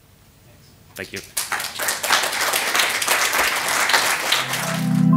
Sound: applause

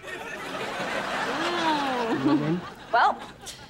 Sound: chuckles

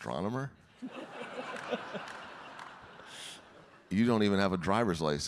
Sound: audience laughing

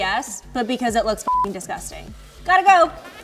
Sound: beep

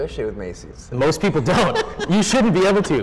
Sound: laughing

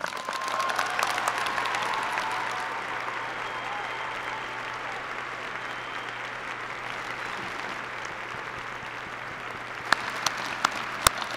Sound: applause

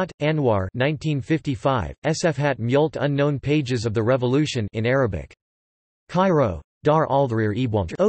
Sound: in Arabic

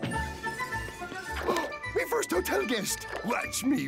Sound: gasping

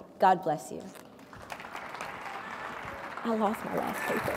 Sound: audience clapping

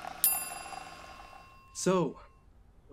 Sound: bell dings

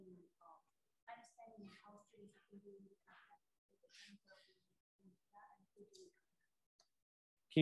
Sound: voice muffling

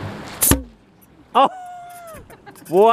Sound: potato gun thuds; laughter

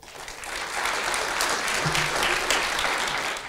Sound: applause

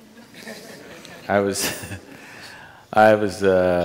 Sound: laughter; laughs

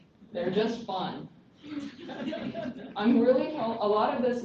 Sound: laughter

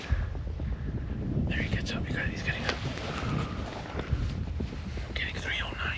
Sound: whispering

